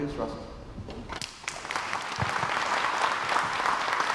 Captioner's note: crowd applauds